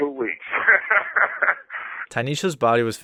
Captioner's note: laughing